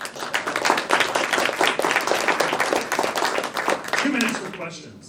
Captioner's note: applause